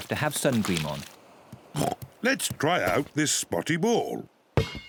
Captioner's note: oinks